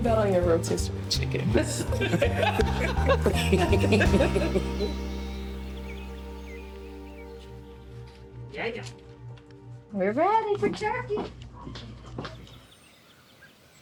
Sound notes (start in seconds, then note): 1.5 all laugh